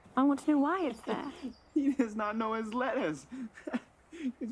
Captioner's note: laughs